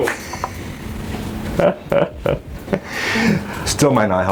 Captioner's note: laughing